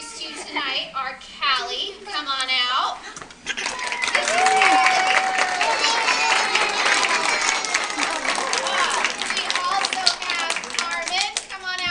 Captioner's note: applause